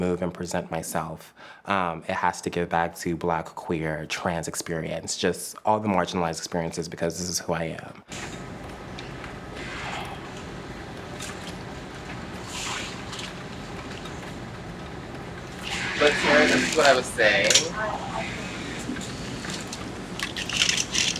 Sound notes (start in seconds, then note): 8.3 machines whirring